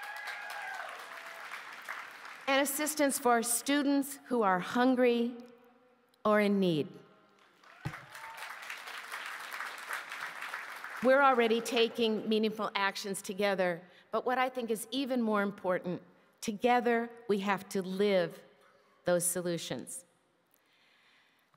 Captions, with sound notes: FORWARD. LIKE FACULTY GOVERNANCE , SUSTAINABILITY, AND I WILL RETURN TO THAT. MENTAL HEALTH SERVICES [ APPLAUSE ] AND ASSISTANCE FOR STUDENTS WHO ARE HUNGRY OR IN NEED. WE ARE ALREADY TAKING MEANINGFUL ACTIONS